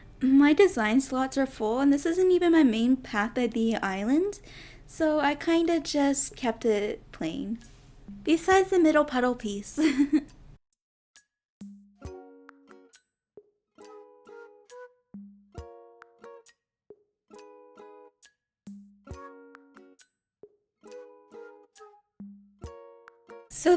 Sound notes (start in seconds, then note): 9.8 giggles